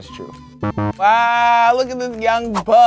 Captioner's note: buzzer